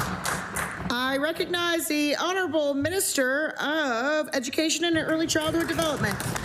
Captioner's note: applause